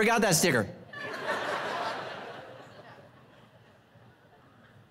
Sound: congregation laughing

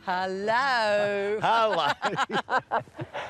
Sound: laughs

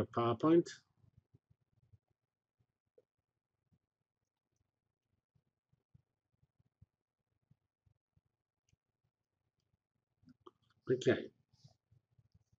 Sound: pause

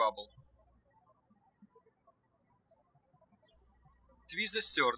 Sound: birds chirping

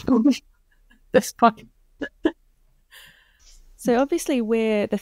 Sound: laughs

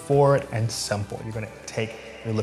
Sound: echo

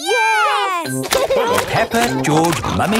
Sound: laughing

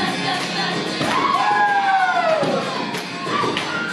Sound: students cheering while watching tap dancer

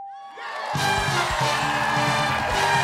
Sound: cheers and applause

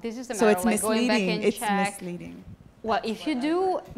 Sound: voiceover

